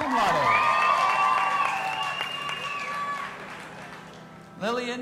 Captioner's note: audience applauding and cheering